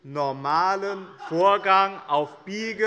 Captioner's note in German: Lautes Lachen